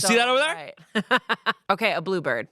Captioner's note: Amanda laughs